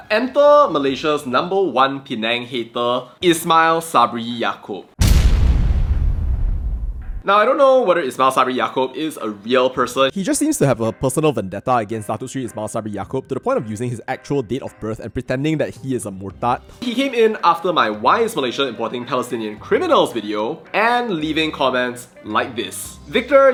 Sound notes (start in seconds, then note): 5.0 boom